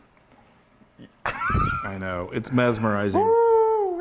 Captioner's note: laugh